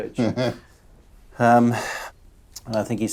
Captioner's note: chuckles